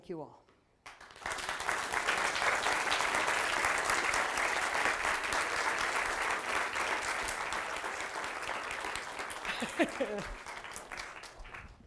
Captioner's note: applause